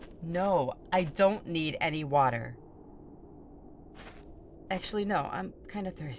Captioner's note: footsteps leave; footsteps return, music fades